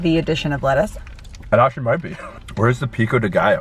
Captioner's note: laughs